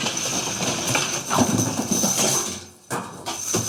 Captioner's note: objects clattering